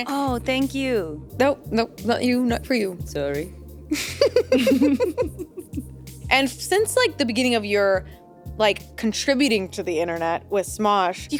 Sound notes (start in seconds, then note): 3.9 chuckles